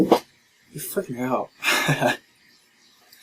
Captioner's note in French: rire